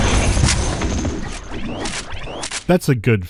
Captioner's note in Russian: чик-вущ-клик-вущ-клик